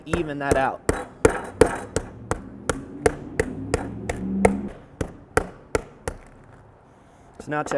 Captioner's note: meat mallet banging